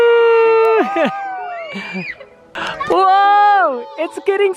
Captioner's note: cheering